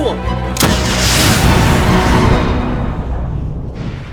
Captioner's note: firing and explosion sounds